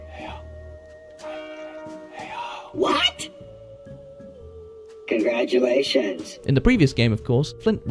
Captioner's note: whisperinging ‘heyo